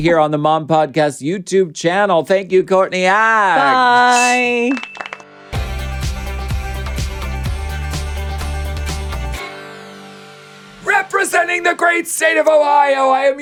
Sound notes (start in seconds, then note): 4.5 crowd applauding; 5.8 upbeat music